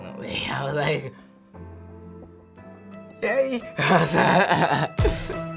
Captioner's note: laughing; upbeat music